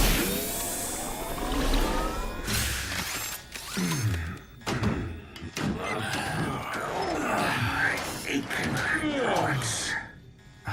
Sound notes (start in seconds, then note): 3.8 all groaning